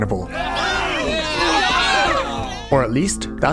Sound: disgusted

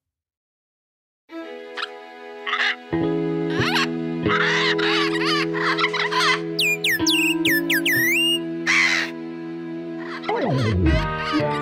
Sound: chirping

